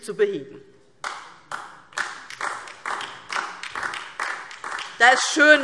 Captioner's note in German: Beifall DIE LINKE